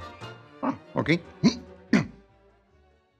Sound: grunts

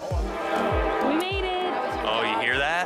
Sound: train engine roaring

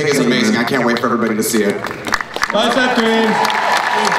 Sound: crowd applauds

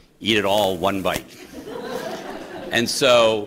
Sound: laughter

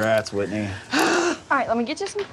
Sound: exasperated sigh

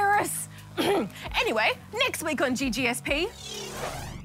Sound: clears throat

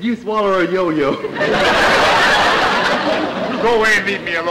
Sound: audience laughter

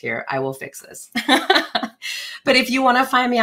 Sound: chuckles

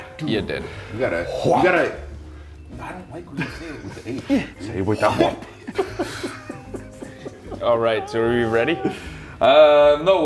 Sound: laugh

